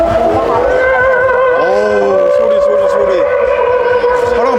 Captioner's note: crying